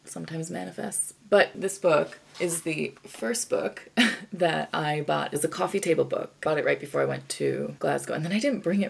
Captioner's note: chuckles